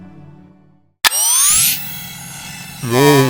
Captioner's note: click